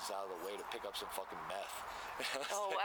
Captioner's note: laughter